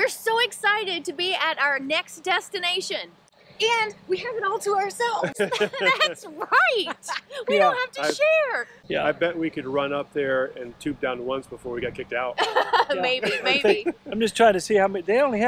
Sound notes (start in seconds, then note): 5.2 chuckles; 12.4 chuckles